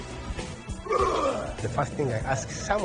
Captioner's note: actor grunting